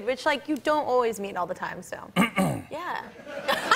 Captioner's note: clears throat; laughs